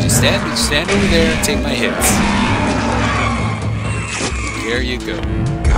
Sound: gunshots and monster roars

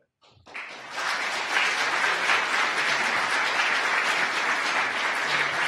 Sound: audience applause

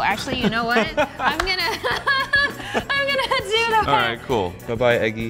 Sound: laugh

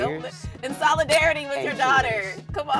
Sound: clinks glass

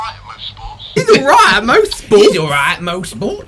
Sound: cockney Accent

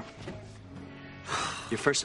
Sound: joel sighs

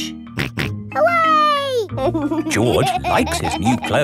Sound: snorts and laughs

